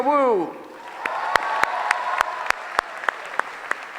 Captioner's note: applause